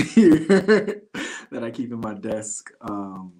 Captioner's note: laughter